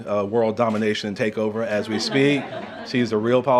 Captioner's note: laughter